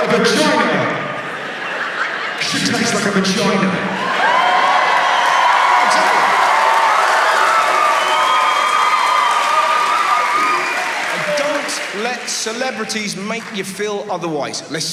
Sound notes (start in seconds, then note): 0.0 audience laughs; 4.6 audience cheering